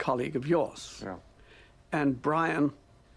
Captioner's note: voiceover